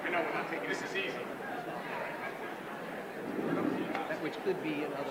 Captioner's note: indistinguishable chatter